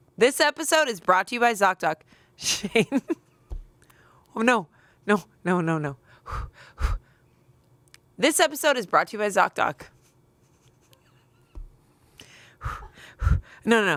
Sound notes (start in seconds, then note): 3.4 laughs; 7.1 pants; 12.2 pants